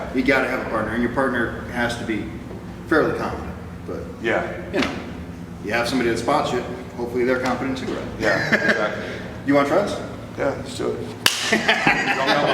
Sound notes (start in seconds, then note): 8.2 chuckles; 11.2 rage claps/ laughs